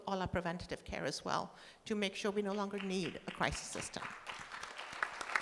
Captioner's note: applause